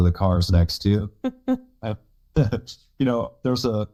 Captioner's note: both laugh